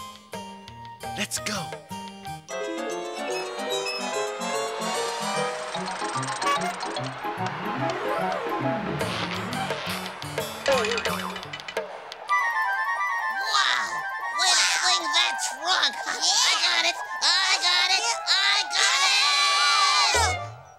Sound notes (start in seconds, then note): 6.4 honk!; 10.4 boing!